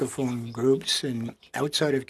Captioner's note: speaking French